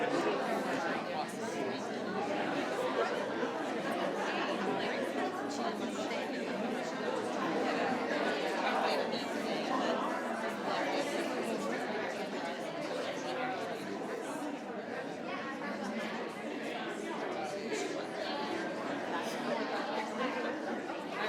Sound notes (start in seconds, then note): 16.0 speaks faintly